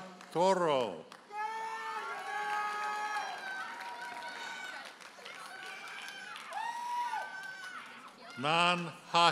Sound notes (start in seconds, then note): 1.2 audience hollers and applauds